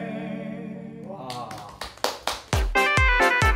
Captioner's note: clap clap